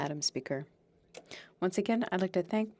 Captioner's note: speaking French